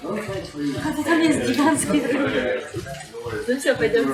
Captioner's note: laughing